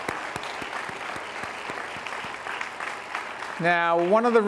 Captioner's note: all applaud